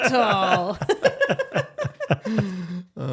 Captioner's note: laughing